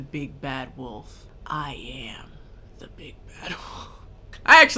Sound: laughs

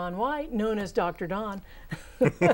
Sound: laughing

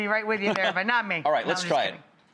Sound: laughs

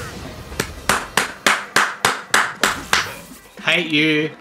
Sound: clap

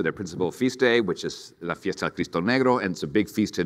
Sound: speaks in foreign language

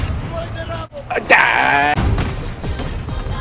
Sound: exclaims

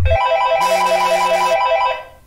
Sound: phone rings

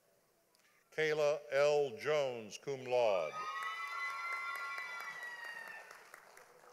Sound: audience applauding

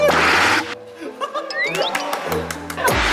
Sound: claps

